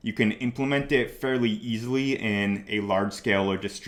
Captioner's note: none